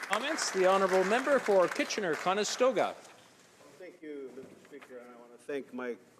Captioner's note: applause